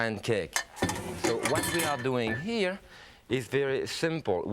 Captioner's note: utensils clanging